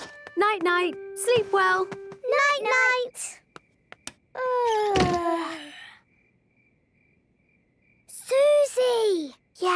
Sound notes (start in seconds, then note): 4.1 both yawning; 4.1 light clicks